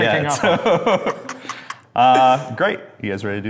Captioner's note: laughing